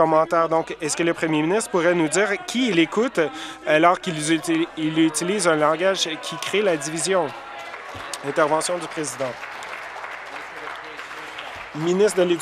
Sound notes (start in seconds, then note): 5.6 voice trailing; 11.7 applause